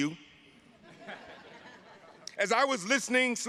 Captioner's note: attendees laughing